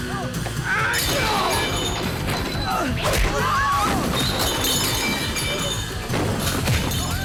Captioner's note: dishes clattering; people screaming